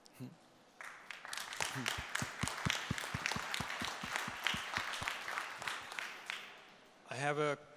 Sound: applause

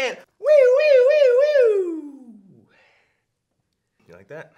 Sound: mimicking siren

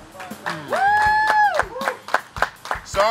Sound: cheering & Clapping

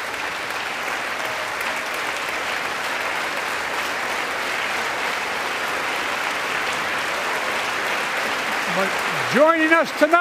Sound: applause

